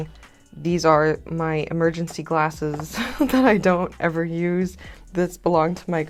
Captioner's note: laughter